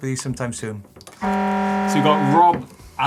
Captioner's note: buzzer